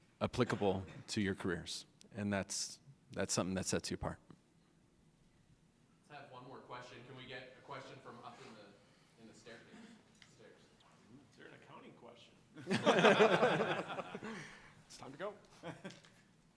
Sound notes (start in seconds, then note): 12.6 laughter